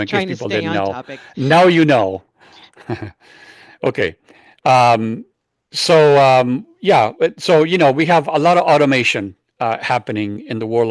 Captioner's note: laughs